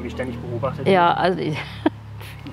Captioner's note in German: lacht